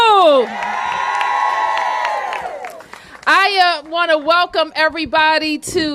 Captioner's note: applause